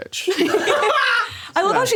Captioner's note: all laughing